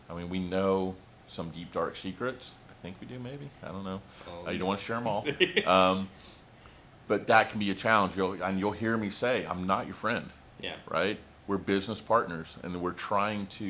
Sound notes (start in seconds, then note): 5.1 chuckles